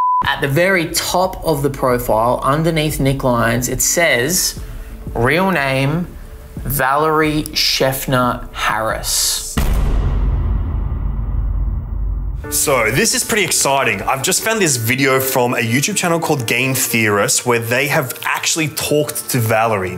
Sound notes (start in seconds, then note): 0.0 beep; 9.5 bang